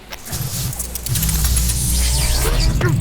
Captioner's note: super expensive CG noises